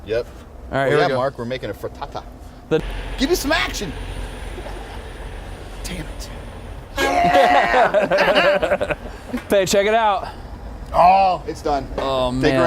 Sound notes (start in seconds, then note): 6.9 laughing; 7.2 truck honks